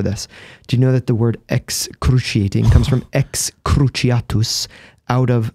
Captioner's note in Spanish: latín